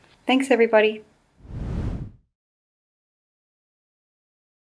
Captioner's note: page whooshing